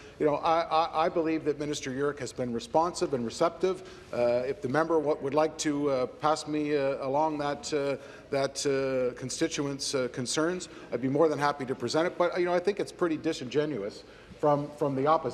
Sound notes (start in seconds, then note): none